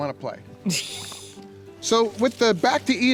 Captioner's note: woman laughs